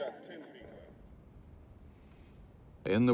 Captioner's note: crickets chirping